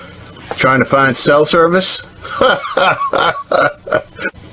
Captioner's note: laughs